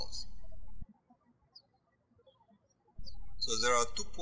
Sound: birds chirping

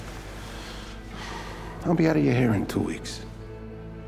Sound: sighs

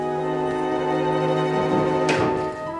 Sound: none

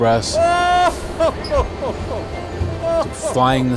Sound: laughing merrily

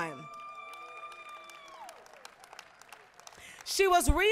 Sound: applause, cheering

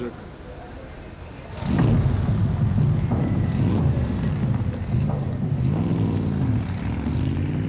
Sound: car engine sounds

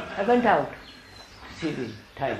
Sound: laughter

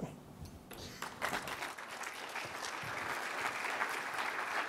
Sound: applause

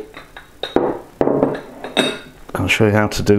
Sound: clunking, clattering

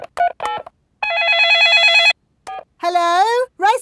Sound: dialing; cell phone ringing

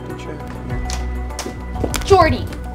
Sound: feet stomping

